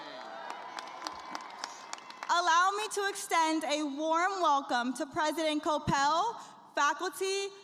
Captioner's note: cheers and applause